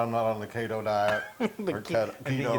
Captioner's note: laugh